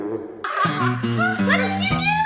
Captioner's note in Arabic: ضحك